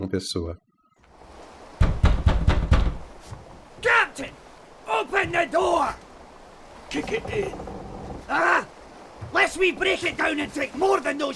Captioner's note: tide sound and men arguing